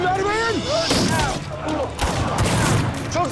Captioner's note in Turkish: Silah sesleri